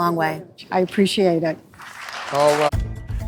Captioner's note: crowd claps